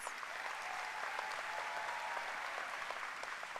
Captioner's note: applause